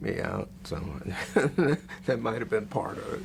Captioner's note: laughs